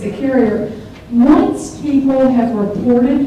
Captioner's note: background chatter starts